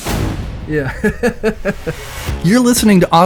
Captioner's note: laughs